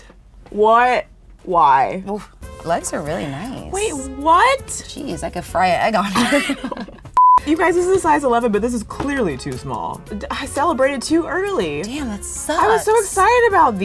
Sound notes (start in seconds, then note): 5.9 laughing; 7.2 beep